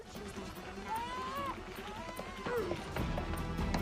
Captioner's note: baby crying